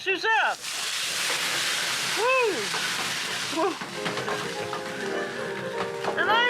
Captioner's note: sizzling